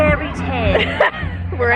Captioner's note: laughs